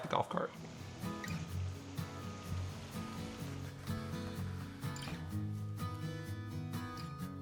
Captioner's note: water running; lively music